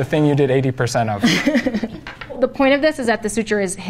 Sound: laughing

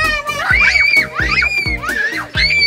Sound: screams

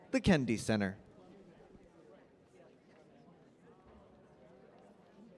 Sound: audience chattering

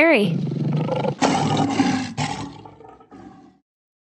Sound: lion roaring

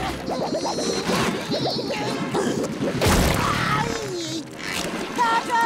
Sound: grunting

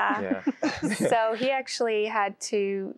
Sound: giggling

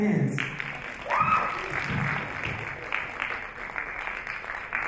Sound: audience applaud

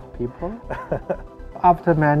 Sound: laughs

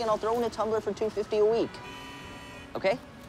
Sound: horns honking

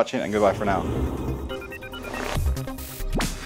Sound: air whooshing; upbeat techno music

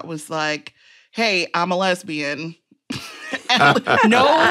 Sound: laughter

